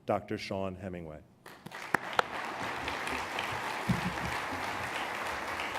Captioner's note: applause